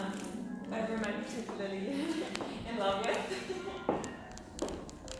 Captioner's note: laughs